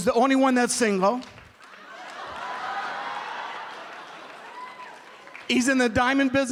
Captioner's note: laughter